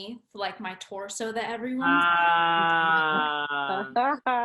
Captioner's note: groaning; laughing